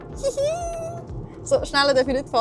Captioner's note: hihi!